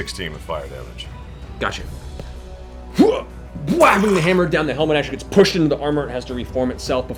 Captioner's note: grunts